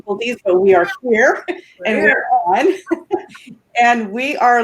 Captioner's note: laughs